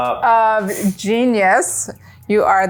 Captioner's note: laughs